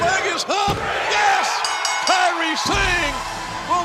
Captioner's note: bell ringing